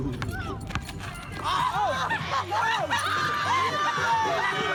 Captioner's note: laughter